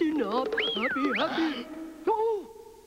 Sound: whistles

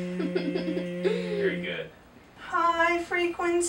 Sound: daughter giggling

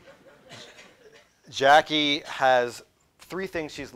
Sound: laughter

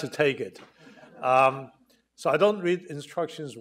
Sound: audience chuckling

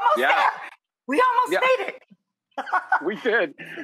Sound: laughs

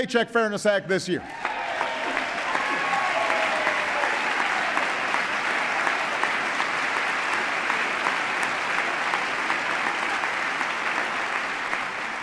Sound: applause

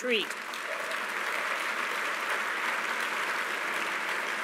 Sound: applause

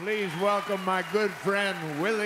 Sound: cheering and applause

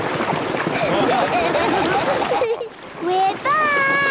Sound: laughing

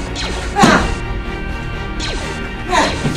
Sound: intense fighting

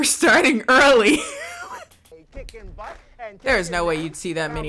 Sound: laughs

